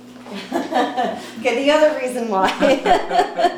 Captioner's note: laughs